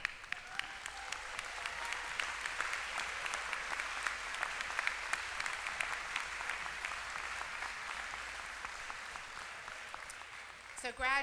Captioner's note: applause